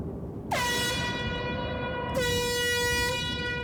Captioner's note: air horn blares